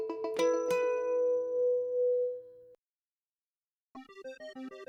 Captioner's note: silence